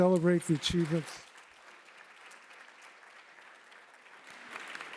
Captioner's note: applause